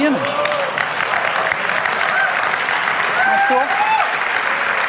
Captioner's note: audience cheers